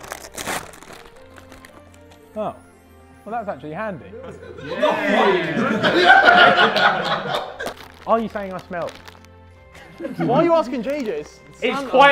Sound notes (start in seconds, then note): 4.1 Sidemen laughing